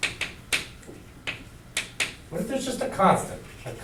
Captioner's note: chalk clicking on board